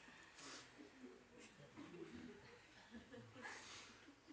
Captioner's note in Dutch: stilte onderbroken door gelach